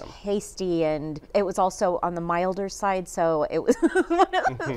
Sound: laughs

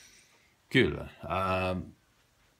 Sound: finnish

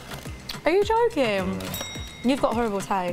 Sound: bell dings

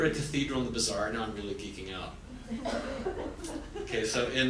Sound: audience laughs

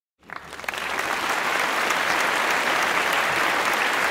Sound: applause

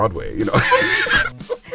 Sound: laughing

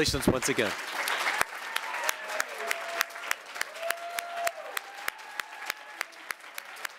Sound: audience applauding; audience cheering

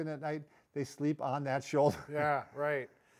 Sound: chuckles

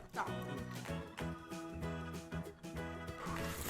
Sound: crunch ~ Crunch ~ Crunch

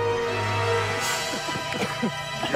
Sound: whispers

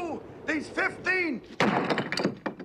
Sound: tablet crashes

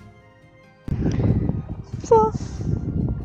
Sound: wind

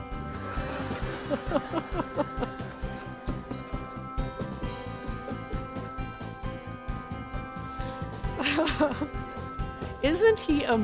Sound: laughter from Crowd

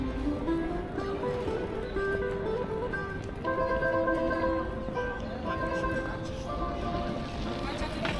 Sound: people chattering

